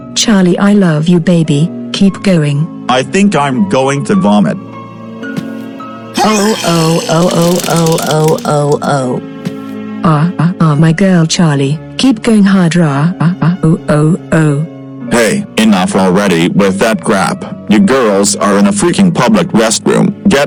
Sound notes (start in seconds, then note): 6.1 Boris vomiting off-screen